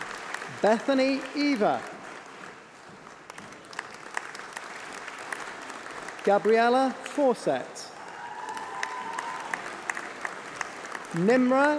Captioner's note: applause